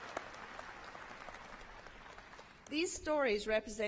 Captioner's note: applause